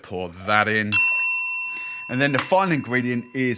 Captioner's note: bell dings